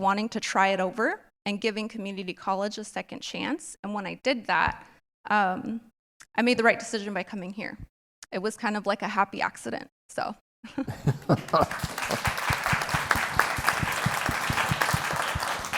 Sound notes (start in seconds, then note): 11.0 applause